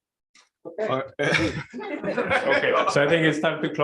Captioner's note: laughter